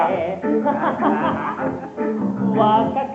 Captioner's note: laughs together